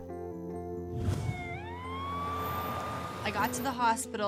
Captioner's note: peaceful music; siren blaring